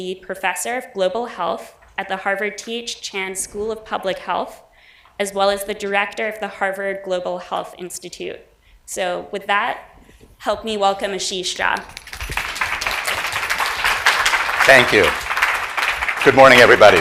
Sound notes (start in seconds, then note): 11.8 audience applauds